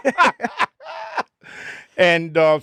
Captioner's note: both laughing